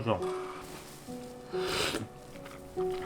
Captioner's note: slurping